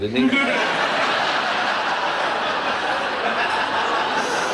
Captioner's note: audience laughs